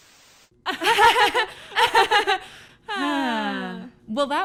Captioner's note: synchronized laughter